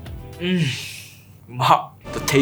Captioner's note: cries in Japanese